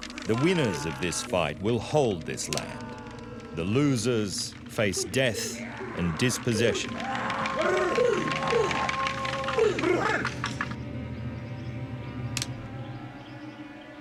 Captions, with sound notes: The winners of this fight will hold this land. The losers face death and dispossession. [men taunting] [musket cocking]